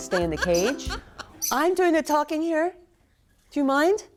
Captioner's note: bird interrupts